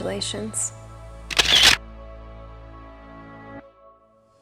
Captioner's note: camera shutter clicks